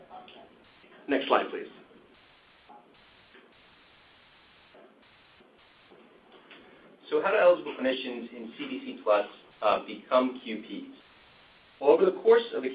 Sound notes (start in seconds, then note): 0.0 silence; 1.9 silence